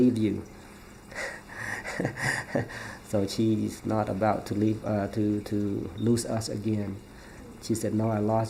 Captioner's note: laughs